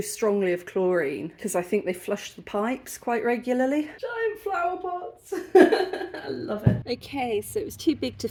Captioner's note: laughing